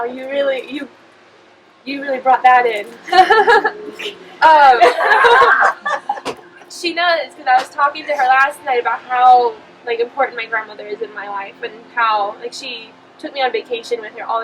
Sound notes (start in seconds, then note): 2.9 laughing; 4.6 participants laughing